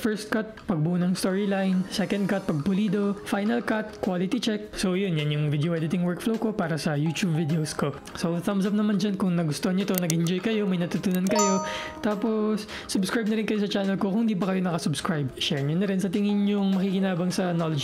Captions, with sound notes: First Cut - storyline development Second Cut - polishing Final Cut - quality check, So that's my video editing workflow for my Youtube videos. So, thumbs up there if you liked it, You enjoyed it, You learned something [bell ring] Then, subscribe to my channel if you have not subscribed yet, Share it if you think someone will benefit from this knowledge.